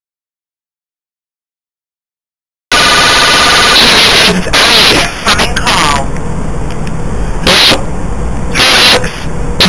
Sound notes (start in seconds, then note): 6.0 background radiation sound